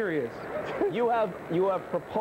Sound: continues laughing

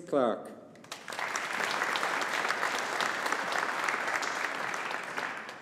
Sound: audience applauding

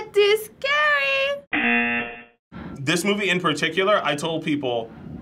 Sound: buzzer

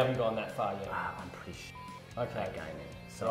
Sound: beep

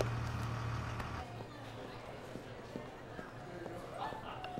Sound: indistinct chatter

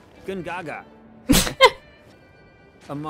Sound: laugh

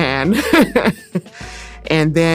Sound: laughing

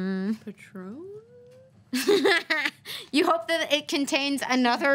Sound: laughs

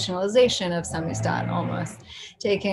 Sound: speaks in foreign language

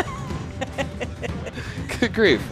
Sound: laughing

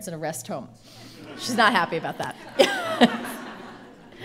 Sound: laughing

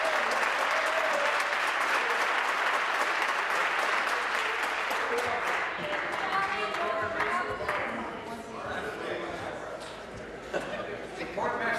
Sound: applause

